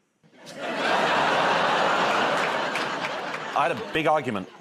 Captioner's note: laughter